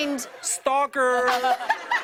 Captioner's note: laughter